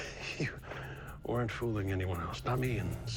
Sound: chuckles

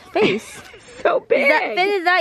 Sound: laughs

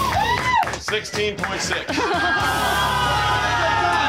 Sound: crowd awwing

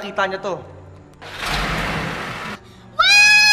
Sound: car engine revvs

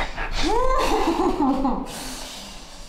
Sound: Alice exhales

